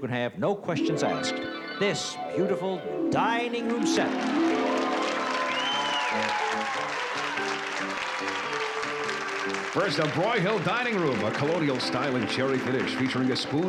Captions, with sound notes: no questions asked. [DREAMY HARP MUSIC] This beautiful dining room set. [APPLAUSE] [JAUNTY MUSIC] - First a Broyhill dining room. A colonial style and cherry finish featuring a spoon foot